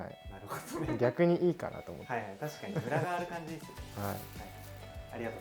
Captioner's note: laughs